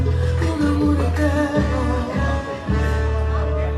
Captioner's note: in Spanish